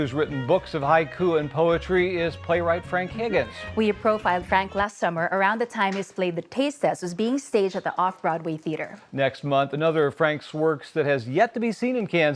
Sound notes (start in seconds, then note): none